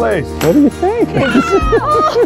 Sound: gleefully yelling; laughing

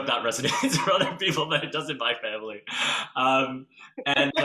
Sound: laughs

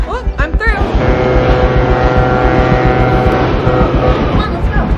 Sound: train horns

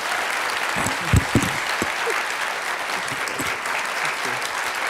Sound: audience applauds

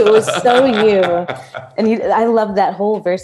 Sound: laughs

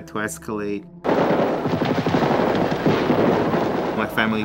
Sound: gunfire

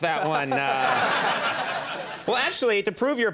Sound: Tiger woods laughs; audience laughs

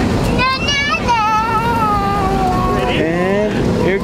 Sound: vocalizing

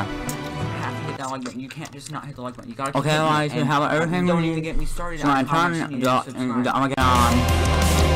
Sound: chews

